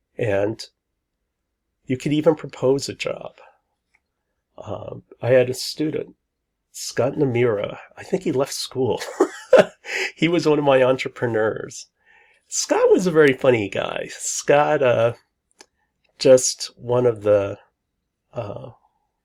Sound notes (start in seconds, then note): 9.0 laughs